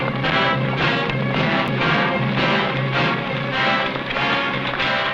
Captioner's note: horse hooves pattering